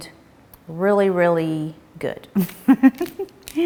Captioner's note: chuckles